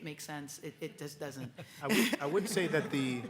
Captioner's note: audience chuckles